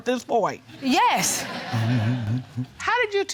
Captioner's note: audience laughing